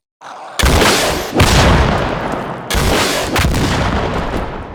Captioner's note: rocket launcher booming